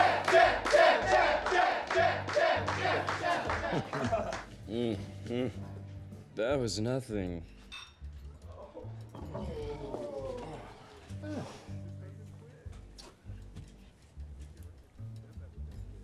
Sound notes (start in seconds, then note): 2.6 chuckles